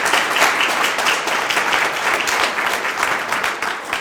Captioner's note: group applauding